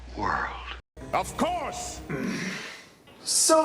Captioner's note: groan